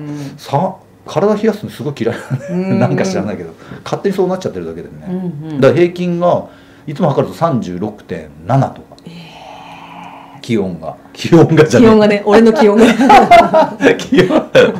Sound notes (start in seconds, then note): 12.6 laughs